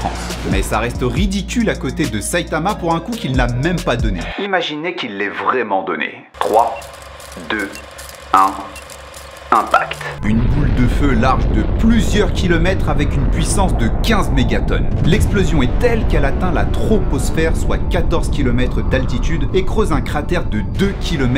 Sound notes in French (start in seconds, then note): 7.0 faire effet ancienne tv plus voix off radio